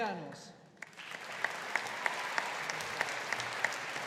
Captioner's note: audience applauding